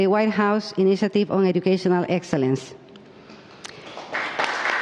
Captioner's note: applause